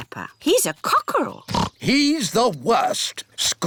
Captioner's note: oinks